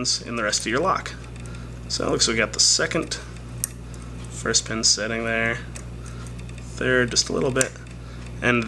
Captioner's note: click